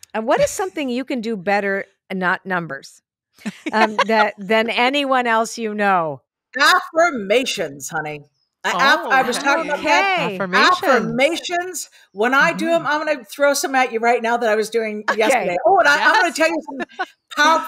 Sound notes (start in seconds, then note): 3.4 laughs